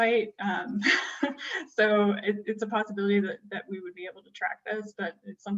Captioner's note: laughter